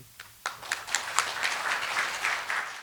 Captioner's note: applause